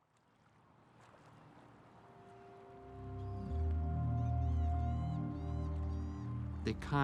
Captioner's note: water lapping; gentle music